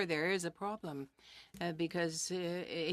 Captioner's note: speaking French